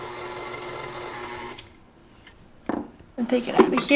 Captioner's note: whirring stops